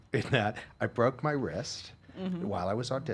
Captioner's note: laughing